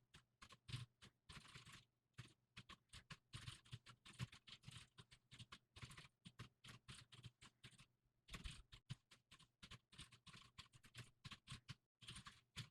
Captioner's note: typing sounds